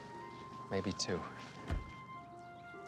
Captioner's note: door open close